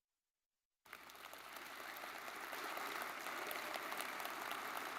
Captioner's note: audience clapping